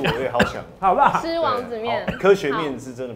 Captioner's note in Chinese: 咳咳